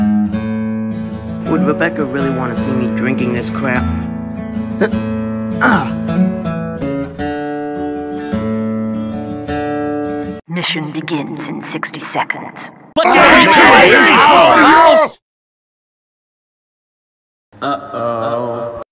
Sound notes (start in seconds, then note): 13.8 shouting And Ready For Battle